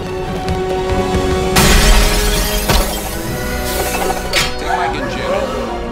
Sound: window crashing

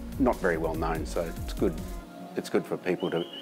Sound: none

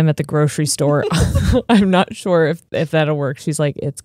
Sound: laughs

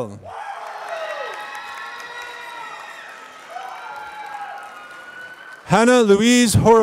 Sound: applause

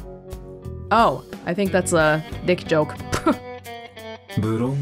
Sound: chuckles

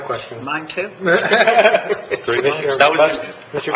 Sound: laughter

